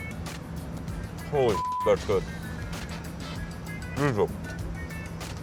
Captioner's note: beep